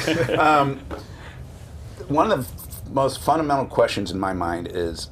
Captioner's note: laughter